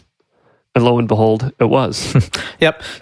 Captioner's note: chuckles